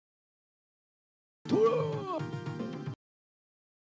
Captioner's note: confused ninja yell